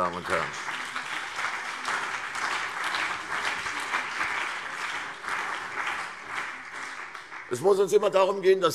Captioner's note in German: Beifall CDU und BÜNDNIS 90/DIE GRÜNEN